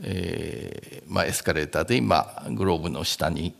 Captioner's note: speaking japanese